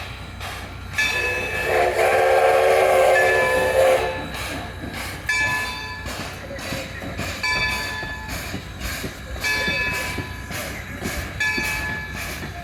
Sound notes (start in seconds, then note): 1.1 long whistle